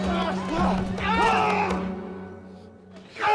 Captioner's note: screams